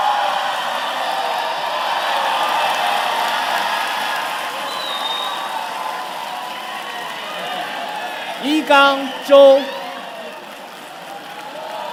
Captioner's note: cheers and Applause